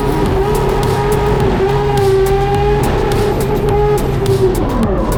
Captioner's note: race car revving continues